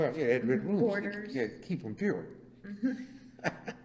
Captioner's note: laughs